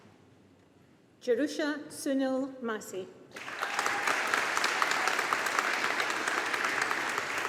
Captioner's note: audience applauding